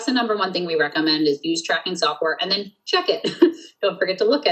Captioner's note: laughs